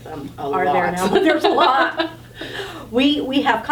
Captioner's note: all laughing